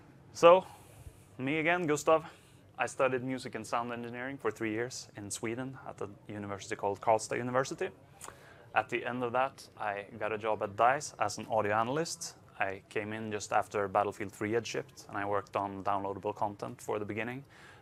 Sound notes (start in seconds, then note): none